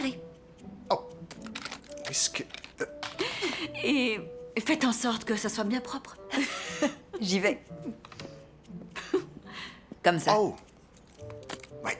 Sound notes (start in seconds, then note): 3.1 laughter; 6.2 laughs